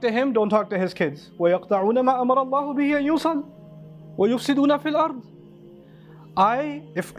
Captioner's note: Arabic